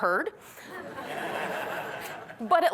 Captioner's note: laughter